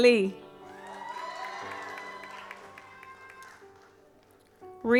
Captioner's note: audience applauds